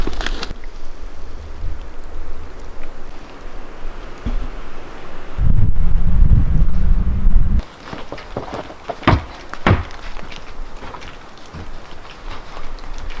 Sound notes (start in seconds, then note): 7.6 footsteps rustling in snow; 9.2 footsteps thudding on steps